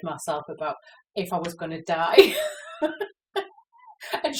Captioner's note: laughs